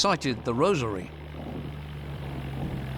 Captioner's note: turbine rumbling